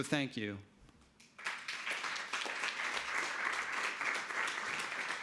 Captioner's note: audience applauding